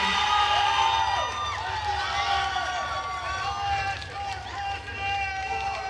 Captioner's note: attendees cheering and applauding